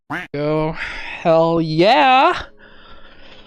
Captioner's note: quack